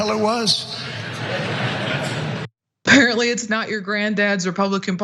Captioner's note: laugh